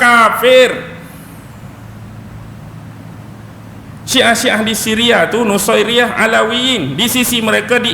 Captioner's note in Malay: none